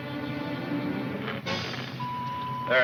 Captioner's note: radio beeps